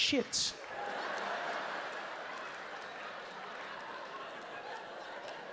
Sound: audience laughing

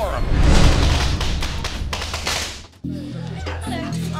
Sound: firecrackers popping

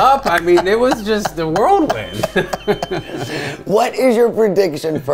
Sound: chuckles

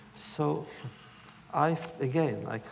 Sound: none

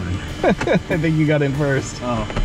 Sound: laughs

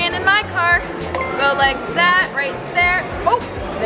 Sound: beeps

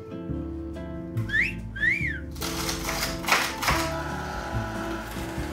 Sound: man whistling; celery crunching; machine whirring

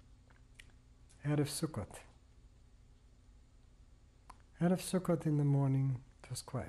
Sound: pauses for 3 seconds

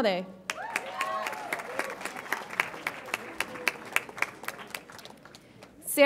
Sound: audience applauds and cheers

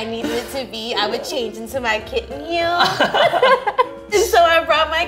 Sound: laughing

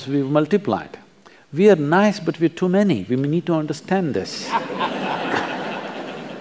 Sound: laughter

